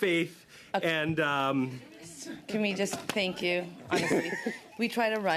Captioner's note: laughter